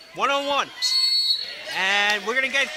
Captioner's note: whistling